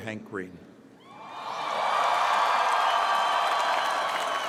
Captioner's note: cheering